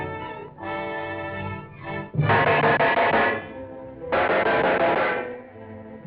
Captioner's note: clanking